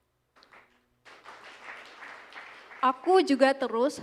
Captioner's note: applause